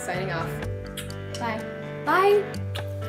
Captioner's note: kiss